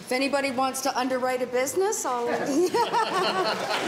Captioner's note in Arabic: ضحك